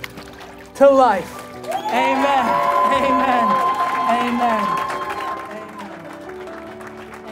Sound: congregation cheering

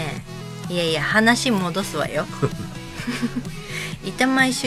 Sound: laughs

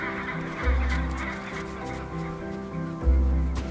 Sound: birds cawing

